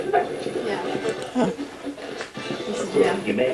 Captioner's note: radio Voice